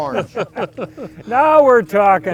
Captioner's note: laughing collectively